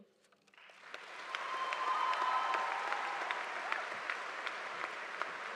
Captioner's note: audience applauding